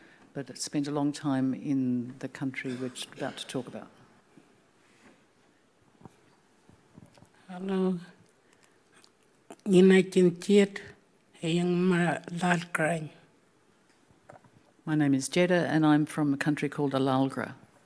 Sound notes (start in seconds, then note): 9.9 speaking Anmatyerr